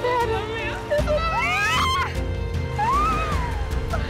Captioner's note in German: schreien